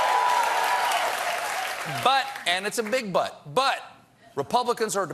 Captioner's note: cheers and applause